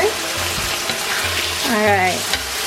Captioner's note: pan sizzling